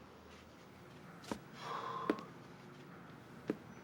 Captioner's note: sighs wearily